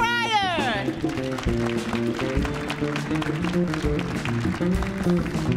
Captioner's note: audience applauds